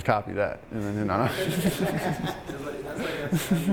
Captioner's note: all laughing